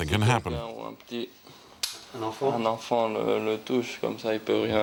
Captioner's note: French spoken audio